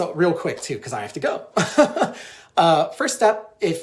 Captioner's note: laughs